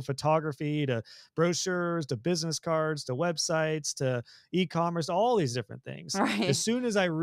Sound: laugh

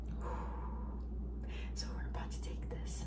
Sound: exhales gently

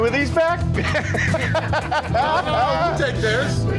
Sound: laughs

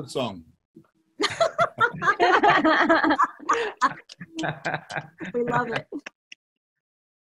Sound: laughter

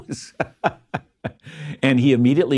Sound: laughs

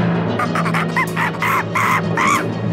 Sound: uplifting music; monkey screams; drum rolls

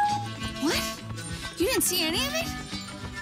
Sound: none

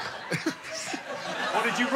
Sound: giggle

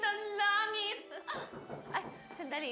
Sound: chuckles; knock on door

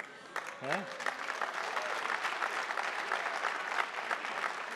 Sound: attendees applauding

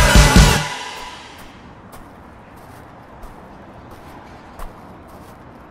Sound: foot steps

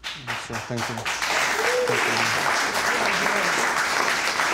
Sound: audience clapping

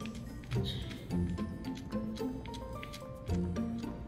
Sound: nom nom nom

